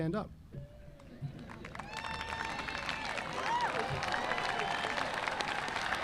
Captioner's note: audience applauding